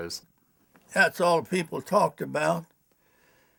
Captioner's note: voiceover